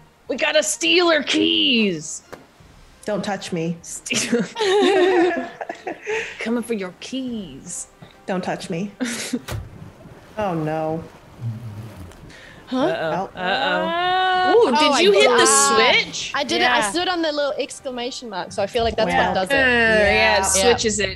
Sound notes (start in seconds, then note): 4.1 laugh